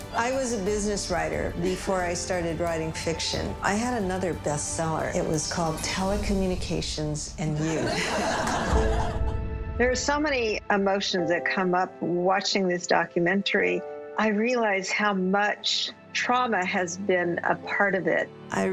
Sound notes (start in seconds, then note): 7.5 audience laughing